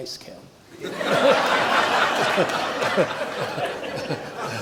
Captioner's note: audience laughs